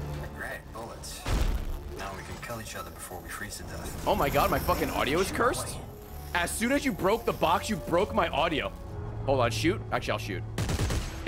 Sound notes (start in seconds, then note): 3.7 static noises